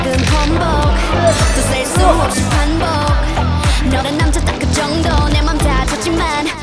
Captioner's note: taking off with fans cheering in support